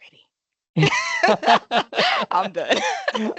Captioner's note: laughing